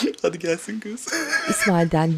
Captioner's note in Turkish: Gülme sesi